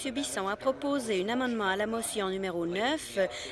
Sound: none

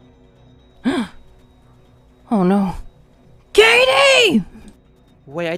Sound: gasp

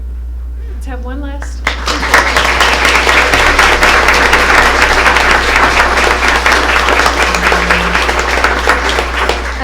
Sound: applause

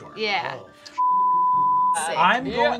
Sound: beep

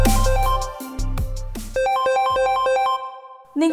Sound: mobile phone ringing

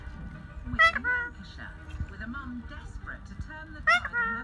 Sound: bird coos

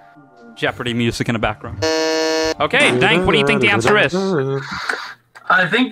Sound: buzzes

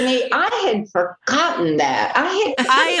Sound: laughter

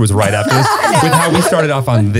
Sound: everyone laughs

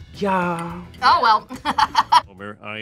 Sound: laughs

